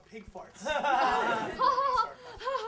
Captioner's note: you-showed-him laughter